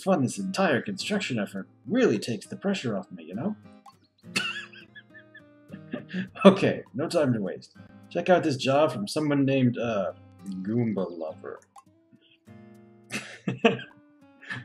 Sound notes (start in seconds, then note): 4.1 laughs softly; 13.1 laughs